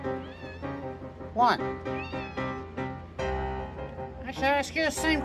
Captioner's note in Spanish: Caprice maúlla; Caprice maúlla de nuevo